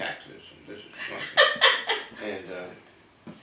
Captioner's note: laugh